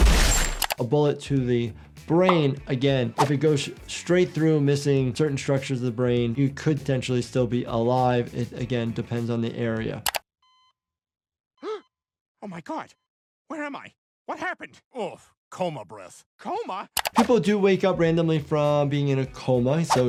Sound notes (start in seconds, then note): 0.0 explosion; 0.0 gun firing; 10.3 beeping; 11.6 gasps